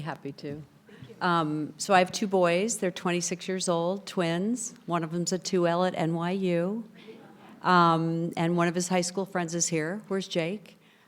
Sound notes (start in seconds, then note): 7.5 people chattering distantly